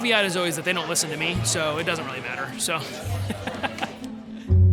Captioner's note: laughter